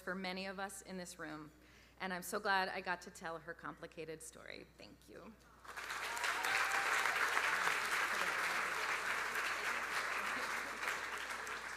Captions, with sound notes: for many of us in this room and I'm so glad I got to tell her complicated story. Thank you. (audience applauding) (audience cheering)